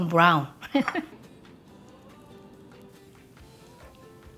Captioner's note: laughs